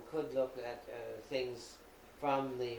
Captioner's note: none